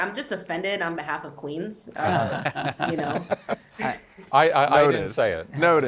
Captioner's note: panelists laughing